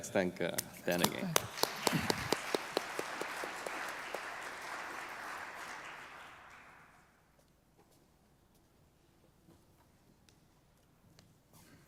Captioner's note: applause